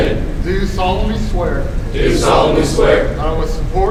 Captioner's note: commissionees repeat